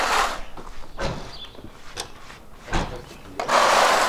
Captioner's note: birds chirping